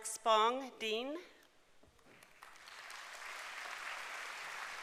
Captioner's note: applause